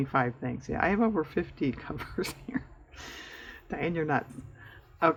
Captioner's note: laughs